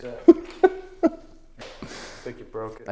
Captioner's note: laughs